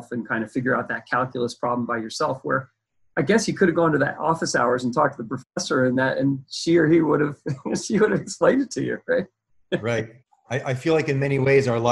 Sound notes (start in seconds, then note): 7.4 laughs